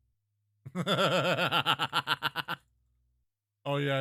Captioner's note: evil laugh